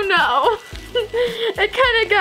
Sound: laughing

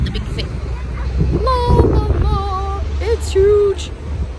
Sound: in a sing-sing voice

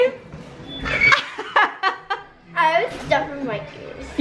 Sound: laughing

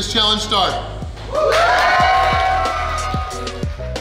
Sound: cheering & Clapping

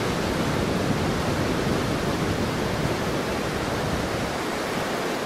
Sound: waves crashing

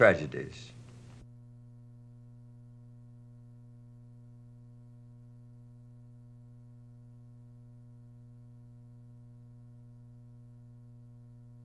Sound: silent

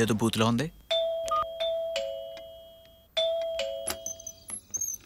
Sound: doorbell ringing

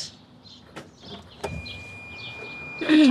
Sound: beeping noise

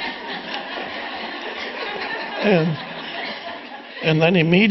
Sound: audience laughing

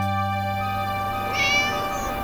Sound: meow

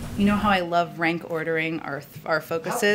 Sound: laughs

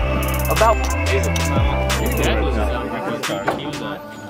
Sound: speaking in foreign language; laughing; men murmuring

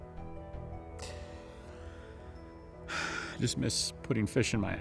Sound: sighs

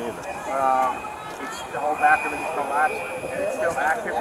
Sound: background talking

